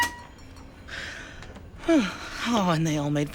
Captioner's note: feedback sounds; sighs